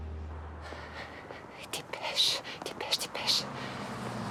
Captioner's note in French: soupirs